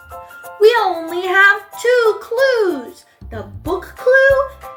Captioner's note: sigh